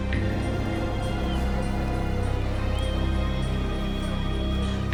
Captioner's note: man whistling